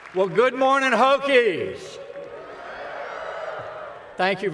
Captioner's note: applause